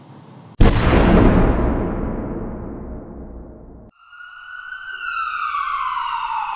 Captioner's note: gunshot